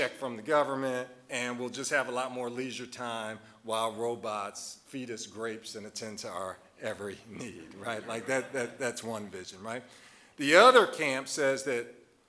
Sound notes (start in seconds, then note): 7.3 audience laughing